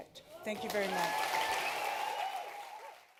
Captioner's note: cheering, applause